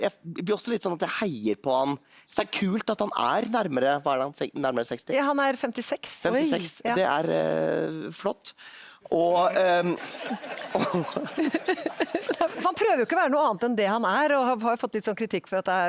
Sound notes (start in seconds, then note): 9.6 lots of laughter from the audience